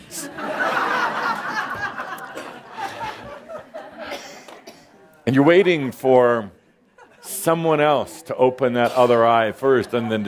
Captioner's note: laughter